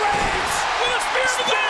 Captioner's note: audience cheers